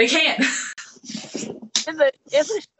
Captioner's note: laughing